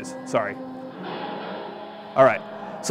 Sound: machinery whirring

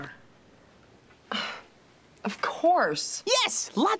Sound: sigh

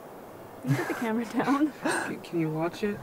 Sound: laughs

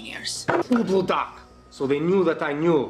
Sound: russian profanity

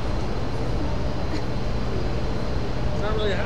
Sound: chuckles

